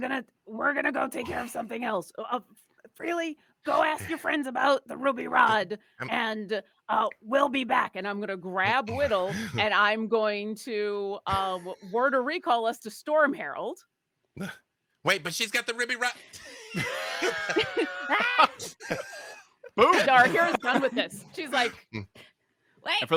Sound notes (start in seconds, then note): 16.3 laughs